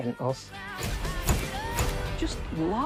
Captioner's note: shutters click